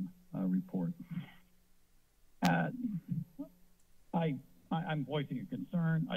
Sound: clearing throat

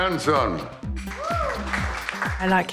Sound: applause

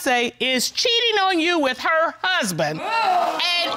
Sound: audience exclaims

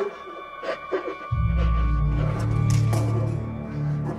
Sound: continues Whimpering

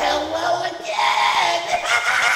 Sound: laugh

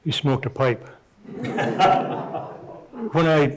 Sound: audience chuckling

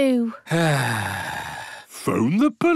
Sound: sighs

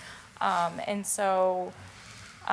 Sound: none

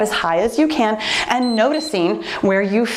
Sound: timer beeps

